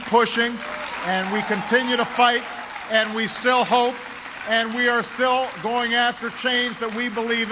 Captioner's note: cheering and applause